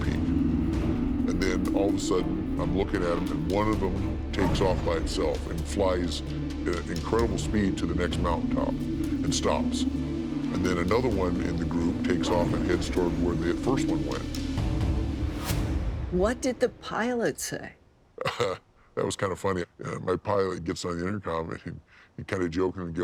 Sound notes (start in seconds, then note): 18.2 laughs